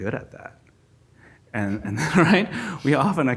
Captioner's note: laughs